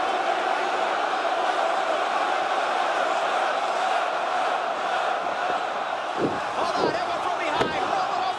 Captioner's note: crowd chatter